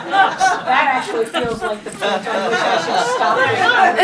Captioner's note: audience laughing; audience chattering